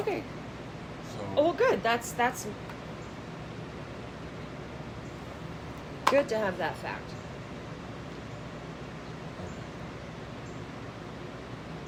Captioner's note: mumbles